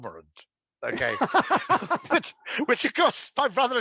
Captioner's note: laughing